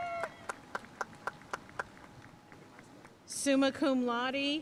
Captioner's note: audience cheering and applauding